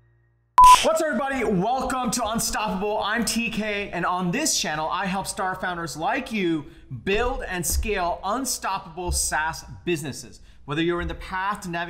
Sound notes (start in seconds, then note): 0.6 beeping